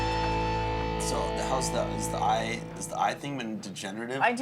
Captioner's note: stammers